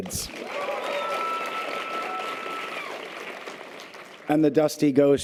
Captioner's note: audience applause and cheers